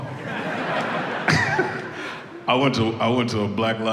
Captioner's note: audience laughs